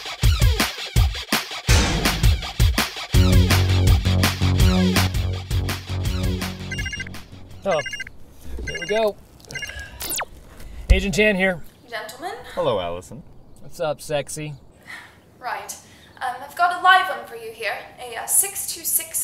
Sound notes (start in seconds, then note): 0.1 intro Music; 8.4 phone beeps